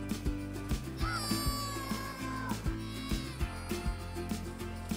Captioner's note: children cheer